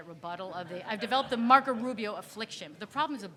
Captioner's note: audience laughing